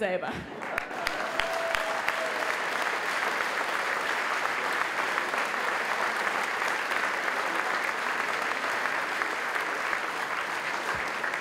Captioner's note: applause